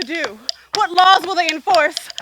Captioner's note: marching louder